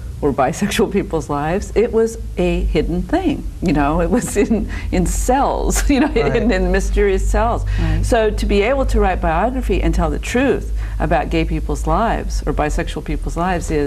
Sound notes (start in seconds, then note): 5.8 laughing